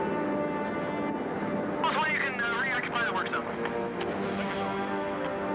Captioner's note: man speaking over radio